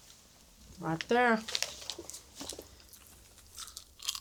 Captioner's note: crunches